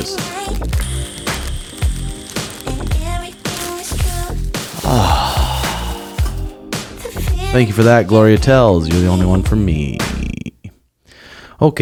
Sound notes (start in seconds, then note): 0.2 inhales; 4.8 exhales